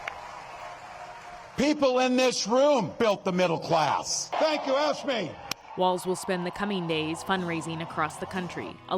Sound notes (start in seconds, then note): 1.6 applause; 1.6 cheering